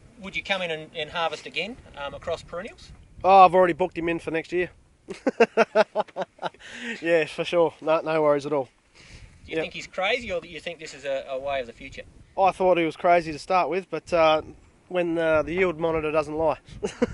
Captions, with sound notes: Would you come in and harvest again across perennials? Oh, I've already booked him in for next year. (LAUGHS) Yeah, for sure. Nah, no worries at all. Do you think he's crazy or do you think this is a way of the future? I thought he was crazy to start with, but when, uh... the yield monitor doesn't lie.